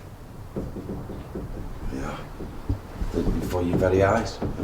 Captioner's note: knocking faintly